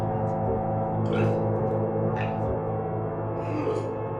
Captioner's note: target retching